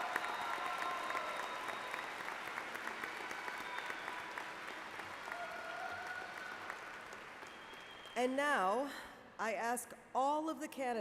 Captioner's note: cheers and Applause